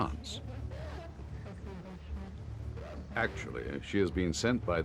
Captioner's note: couple speaking in Russian